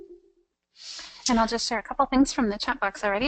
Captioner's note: voiceover